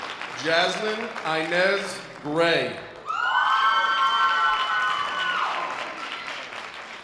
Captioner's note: loud audience applause